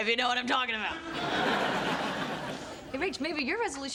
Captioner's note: audience laughs